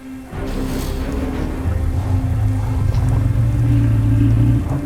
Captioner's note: allosaurus hisses; Diplodocus grunting